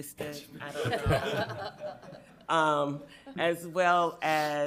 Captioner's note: everyone chuckling